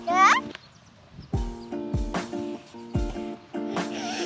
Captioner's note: coos